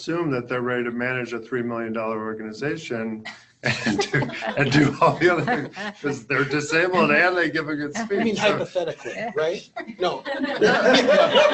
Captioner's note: laughter